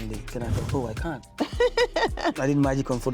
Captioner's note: laughing